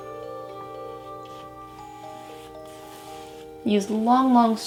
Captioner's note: soft brushing